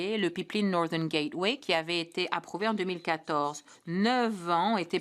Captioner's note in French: voix de l'interprète